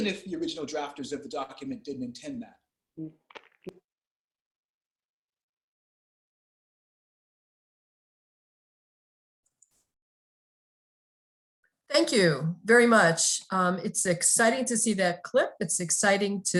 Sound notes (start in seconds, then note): 1.0 end of audio